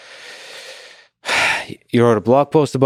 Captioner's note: sighs